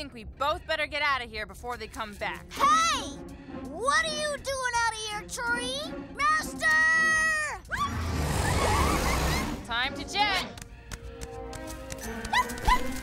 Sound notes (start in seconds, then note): 7.7 roars; 12.4 yipping